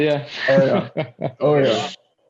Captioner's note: laughter